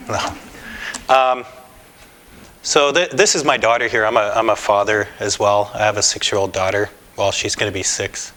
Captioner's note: laughter